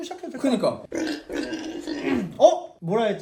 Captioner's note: whisper